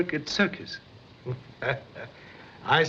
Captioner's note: chuckles